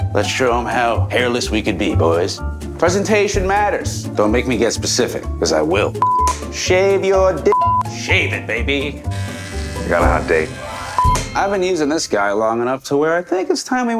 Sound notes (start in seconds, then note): 6.0 beep; 9.0 clippers buzzing